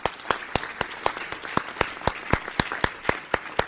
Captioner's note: applause